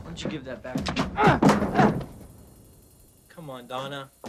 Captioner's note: Donna groaning